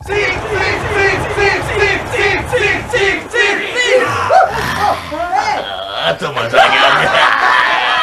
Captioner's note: rhythmic chanting; scream